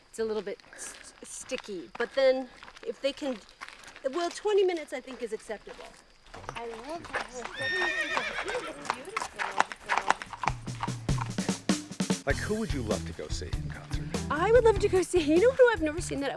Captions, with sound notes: - It's a little bit sticky. But then if they can, well 20 minutes I think is acceptable. (horse neighing) (soft upbeat music) - Like who would you love to go see in concert? - I would love to go see, you know who I've never seen